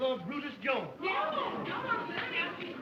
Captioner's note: chatter